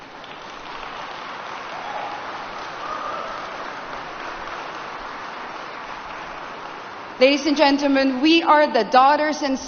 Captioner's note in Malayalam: കരഘോഷം